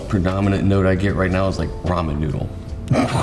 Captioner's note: chuckles